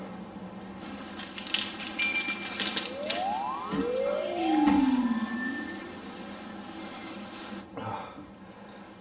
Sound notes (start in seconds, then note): 2.7 high pitch sound